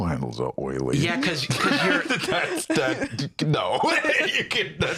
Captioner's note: laughing